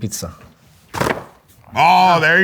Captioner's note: box clanging